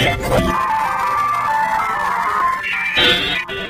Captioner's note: dial-up tone blares